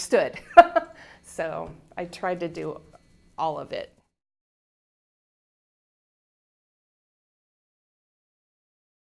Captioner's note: chuckle